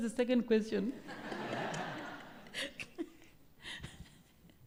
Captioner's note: laughter